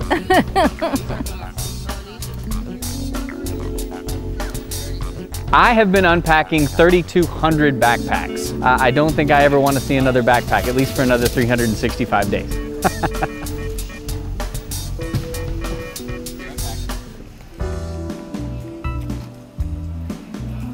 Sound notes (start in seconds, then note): 0.0 laughs; 3.0 light jazz music; 12.6 laughs; 17.7 light jazz music